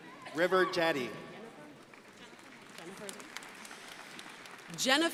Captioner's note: crowd applauding